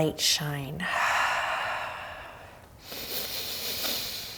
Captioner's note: exhales